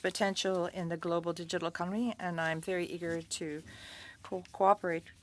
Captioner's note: speaking French